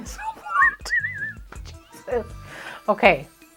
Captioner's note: laughing